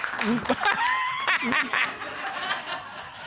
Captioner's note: laughs; audience laughing